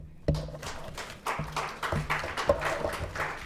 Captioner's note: all applaud